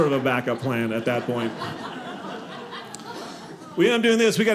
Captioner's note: audience laughing